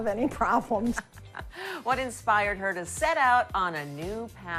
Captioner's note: laughs